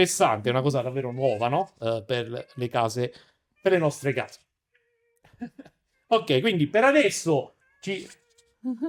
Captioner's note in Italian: risate